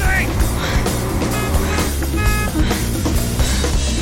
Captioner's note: horn honking